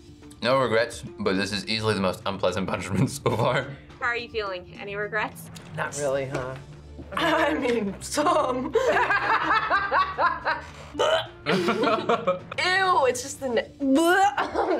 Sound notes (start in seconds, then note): 8.7 gags; 8.7 laughs; 11.4 both laugh; 14.1 gags